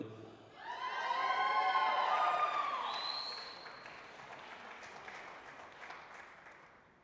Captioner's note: applause, cheering